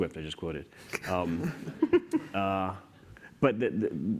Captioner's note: laughter